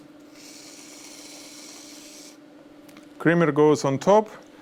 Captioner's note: cream foaming